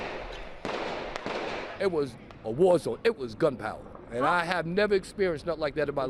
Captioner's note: gunshots